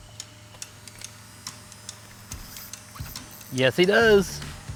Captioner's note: fishing rod reels